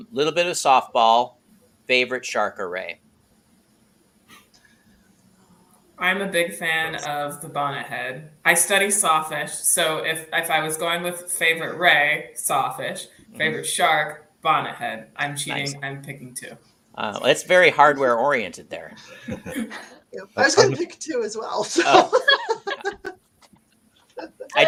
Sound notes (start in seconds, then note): 19.0 laughing; 21.6 laughing